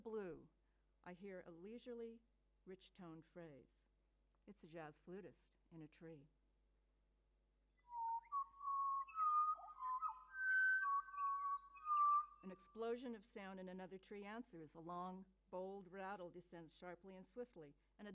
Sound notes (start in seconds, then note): 10.2 birdsong plays